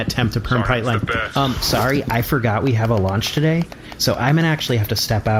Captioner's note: frantically typing